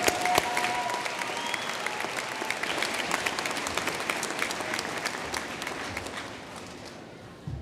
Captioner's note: applause